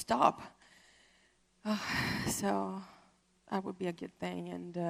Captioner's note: sighs